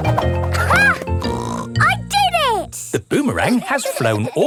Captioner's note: snorts